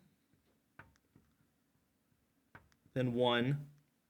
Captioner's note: marker clacks